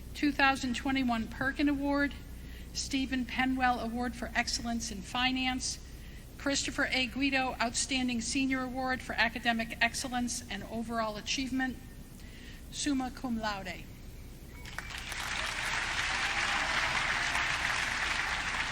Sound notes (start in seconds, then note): 14.6 audience clapping